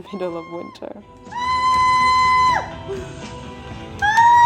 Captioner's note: ahhh! Argghhhhh!!